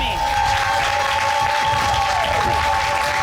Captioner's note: audience cheers and applauds